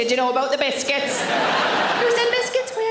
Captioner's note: audience laughs; laughs